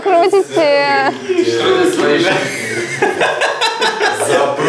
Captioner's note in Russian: Смех